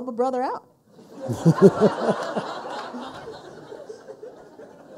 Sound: people laughing

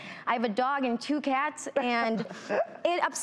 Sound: hosts laugh

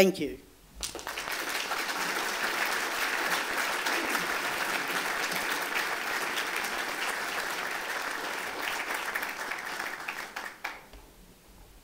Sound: applause

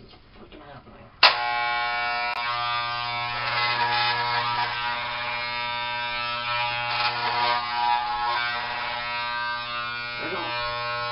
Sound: hair clippers

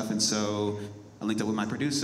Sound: none

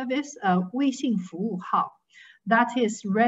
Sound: speaking in foreign language

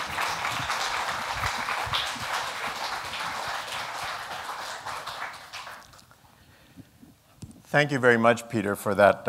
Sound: applause

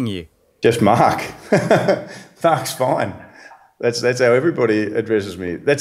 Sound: laughs

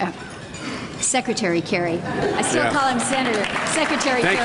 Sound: laughter and applause

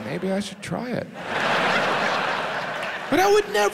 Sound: audience laughs

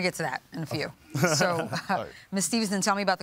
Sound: laughs

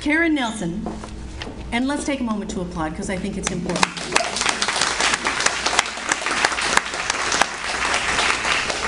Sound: audience Applauds

